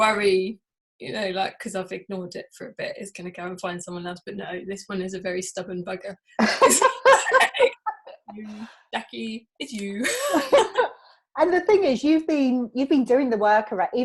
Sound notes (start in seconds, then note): 10.0 both laughing